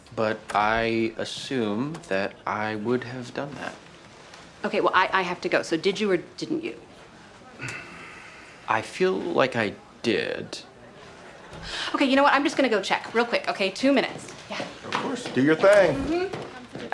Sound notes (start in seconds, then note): 7.5 sighs